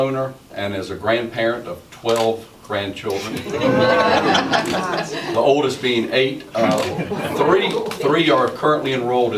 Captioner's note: laughter